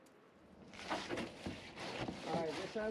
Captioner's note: scrub brush scraping